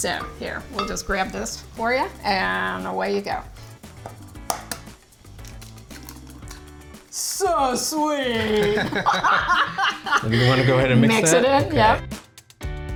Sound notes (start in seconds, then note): 3.9 egg cracking; 8.4 laugh; 12.8 upbeat music continues